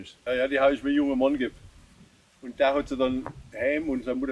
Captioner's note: speaking German